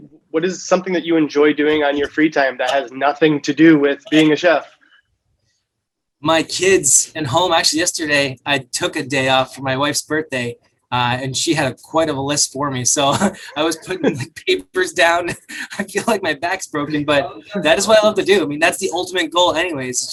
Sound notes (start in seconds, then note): 13.0 laughs